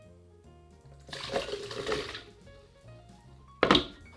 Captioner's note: ingredients dropping